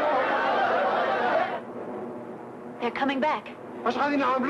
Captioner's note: crowd clamoring